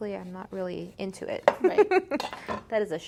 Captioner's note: laughs